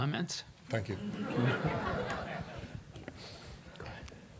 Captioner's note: laughter